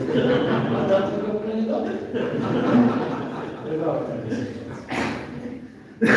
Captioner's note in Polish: Śmiech z sali